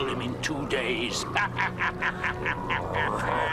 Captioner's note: laughing